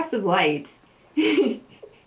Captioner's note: laughter